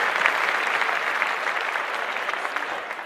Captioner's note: applause